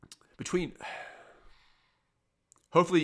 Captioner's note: exhales